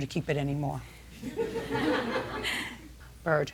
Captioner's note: laughter